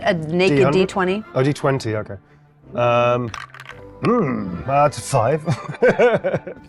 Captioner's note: laughs